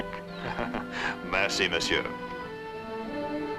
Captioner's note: speaks in french